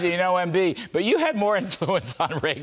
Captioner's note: laughter